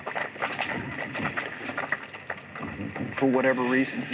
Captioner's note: applause